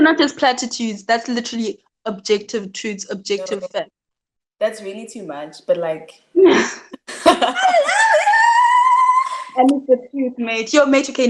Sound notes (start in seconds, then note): 6.4 laughing and exclaiming